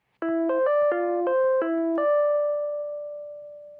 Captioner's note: web call ringing